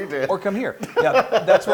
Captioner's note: laugh